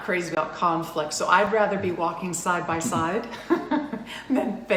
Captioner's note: laughs